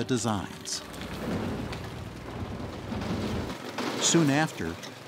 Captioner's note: construction sounds